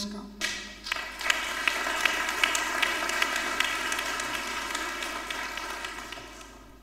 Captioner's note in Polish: oklaski